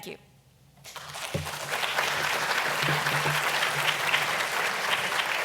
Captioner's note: audience applauding